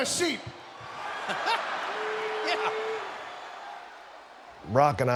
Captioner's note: chuckles